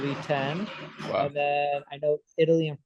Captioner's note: toys clanging